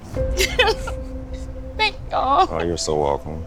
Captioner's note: sobs